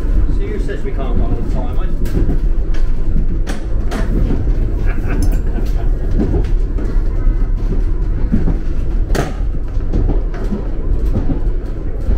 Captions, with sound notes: See, who says we can't run on time, hey? (laughter)